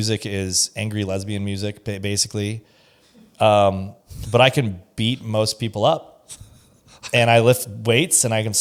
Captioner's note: laughs